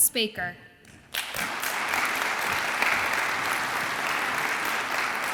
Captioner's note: audience applauds